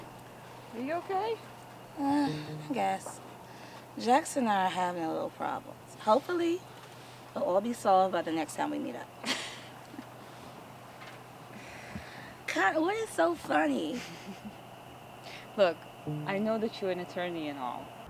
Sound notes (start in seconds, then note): 9.2 laughs